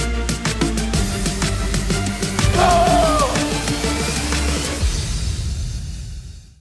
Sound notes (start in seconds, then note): 2.5 scream